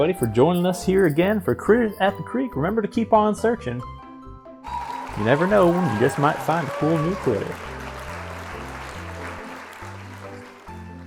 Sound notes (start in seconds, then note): 4.6 audience Applauding; 10.8 playful music